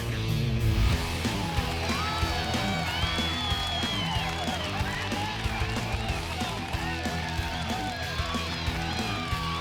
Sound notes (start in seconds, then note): 0.5 upbeat music; 3.5 cheering